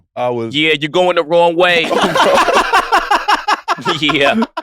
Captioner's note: laugh